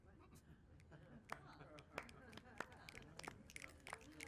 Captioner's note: clapping